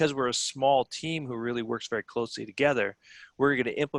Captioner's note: none